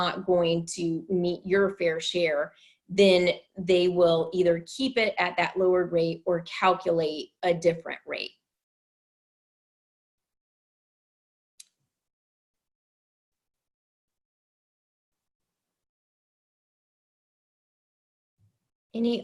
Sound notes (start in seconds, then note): 13.4 long pause